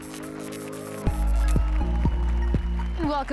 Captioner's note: applause and cheers